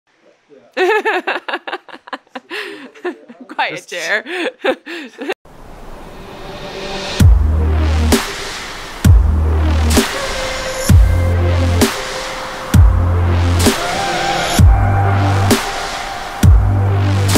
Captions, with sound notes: (Laughter) - Quite a chair. (Epic Music)